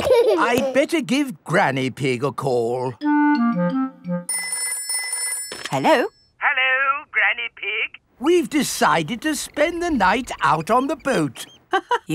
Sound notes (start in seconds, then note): 4.3 telephone ringing